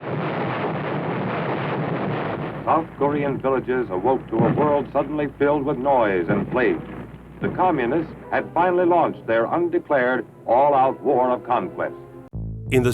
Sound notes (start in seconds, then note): 0.0 explosions